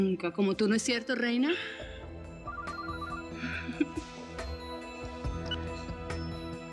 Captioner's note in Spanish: suena el celular